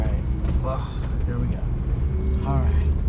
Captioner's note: groans